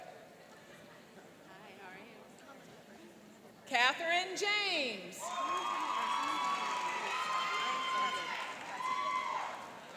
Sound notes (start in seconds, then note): 5.2 cheering and applauding